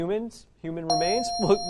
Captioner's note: correct answer chime